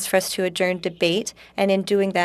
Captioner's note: speaking in French